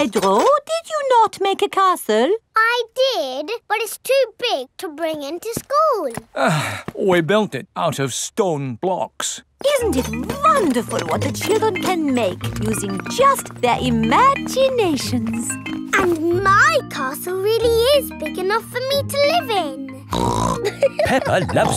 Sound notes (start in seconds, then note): 6.3 sighs; 20.1 snorts and laughs